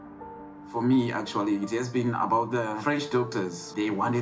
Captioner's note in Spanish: Gabriel hablando en inglés